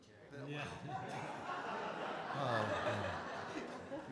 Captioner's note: audience and Performers Laughing